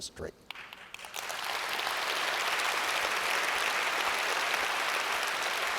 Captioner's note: audience applauds